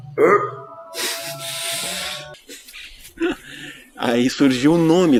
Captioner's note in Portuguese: risos